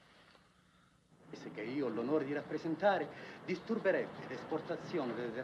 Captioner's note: man speaking Italian